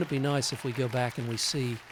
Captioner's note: cheering